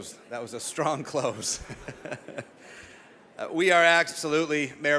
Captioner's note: laughs